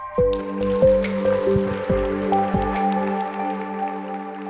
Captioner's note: applause